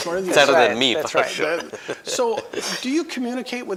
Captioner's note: laughing